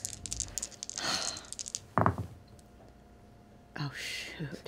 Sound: dice rattle and thud

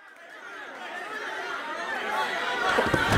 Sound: crowd cheering

